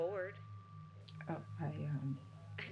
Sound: stuttering

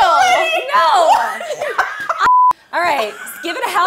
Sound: laughing

